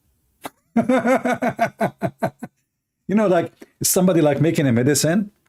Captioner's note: Ketawa